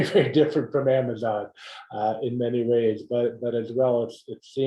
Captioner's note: laugh